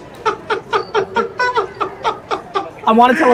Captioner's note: laughing